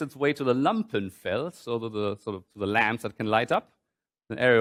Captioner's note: german